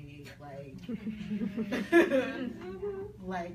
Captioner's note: people laugh